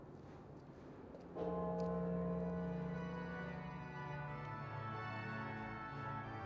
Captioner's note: bright organ music; bell tolls